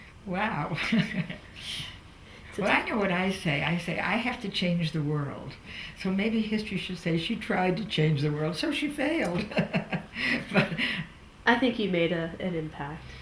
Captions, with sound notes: Wow. Well I know what I say, I say I have to change the world. So maybe history should say, “She tried to change the world so she failed.” (Laughs) I think you made an impact.